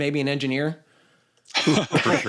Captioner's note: laughter